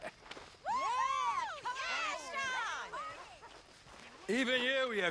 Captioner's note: People around Sean are cheering